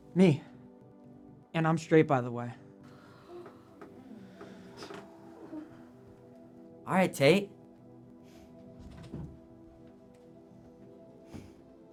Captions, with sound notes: Me and I'm straight by the way! (Class gasps) Alright Tate!